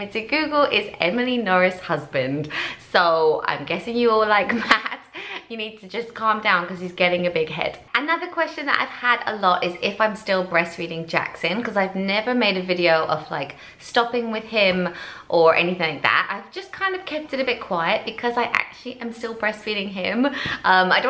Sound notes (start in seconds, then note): 4.4 laughs